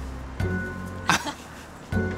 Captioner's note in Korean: 웃음